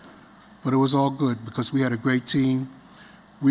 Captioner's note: none